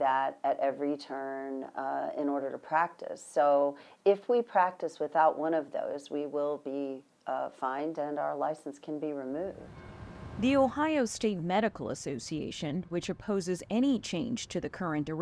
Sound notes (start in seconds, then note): 11.0 voice-over